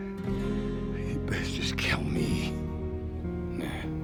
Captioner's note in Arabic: لهجة اسكتلندية